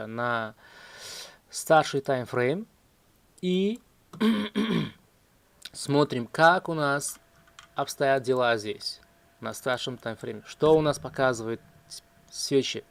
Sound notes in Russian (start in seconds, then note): 4.1 кашель; 4.1 откашливается